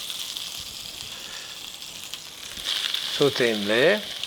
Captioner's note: butter sizzling